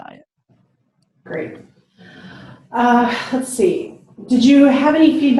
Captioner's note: sighs